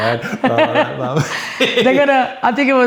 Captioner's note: laughs